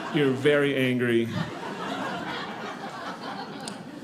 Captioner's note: audience laughing